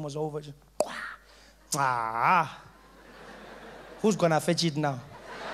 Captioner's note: hitting the ball